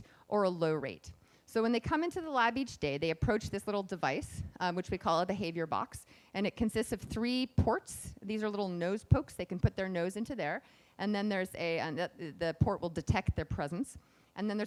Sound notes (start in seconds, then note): none